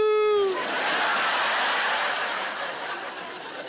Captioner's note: laughter